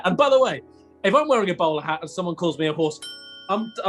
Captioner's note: ding!